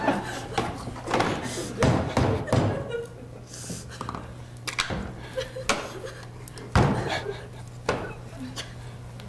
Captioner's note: laughter